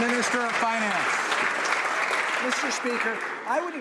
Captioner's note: some Applause